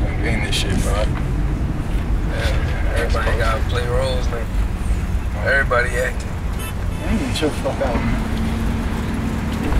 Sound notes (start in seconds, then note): 6.5 car horn honking